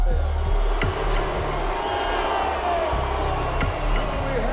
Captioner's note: audience booing, cheering